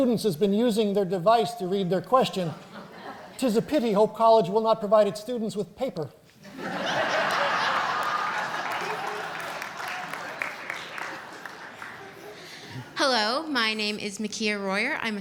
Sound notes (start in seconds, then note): 6.4 laughter